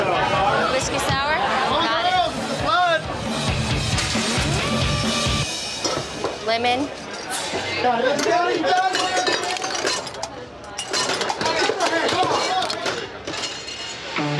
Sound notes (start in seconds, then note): 1.5 shouting; 11.9 shouting